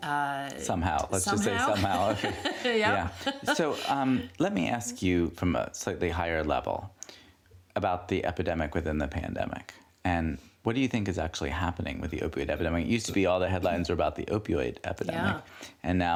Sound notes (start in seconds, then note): 1.4 laughs